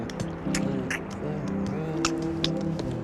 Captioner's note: beatboxes